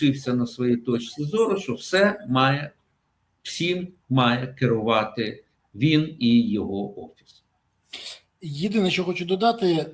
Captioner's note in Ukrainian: сопіння